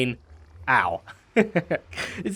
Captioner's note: chuckles